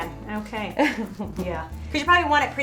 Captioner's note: laughing